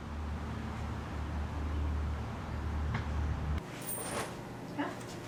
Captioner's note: birds chirping; coins clanging